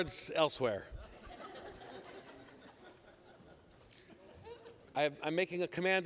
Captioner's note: laughter